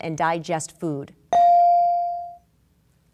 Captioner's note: bell dinging